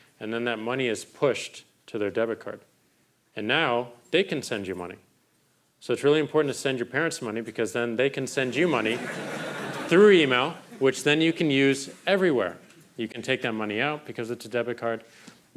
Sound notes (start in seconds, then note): 8.6 crowd laughing